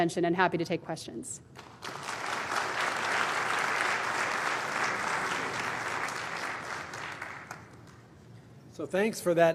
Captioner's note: applause